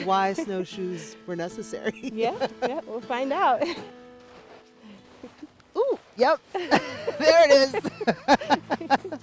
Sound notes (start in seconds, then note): 1.9 laughs; 6.6 laughs